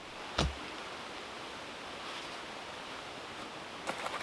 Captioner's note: tool thumping